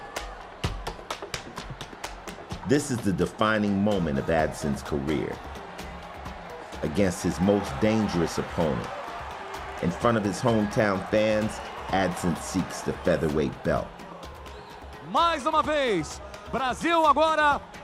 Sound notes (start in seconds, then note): 14.1 announcer speaking Portuguese